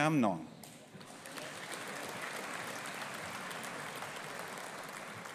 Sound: audience applauding

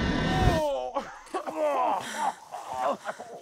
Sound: Greg and Kevin groaning

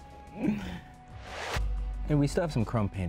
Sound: whoosh

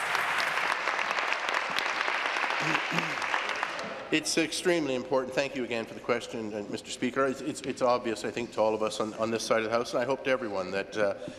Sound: applause

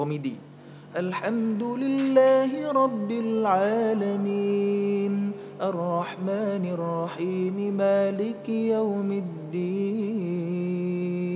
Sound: reciting quran

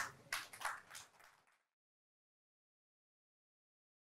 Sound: audience applauding

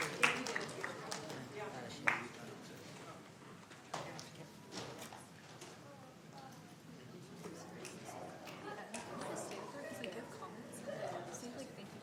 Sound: applause

